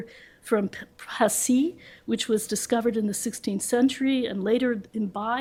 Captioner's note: french